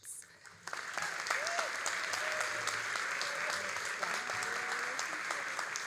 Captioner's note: all applauding and cheering